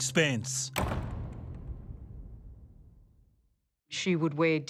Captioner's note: door banging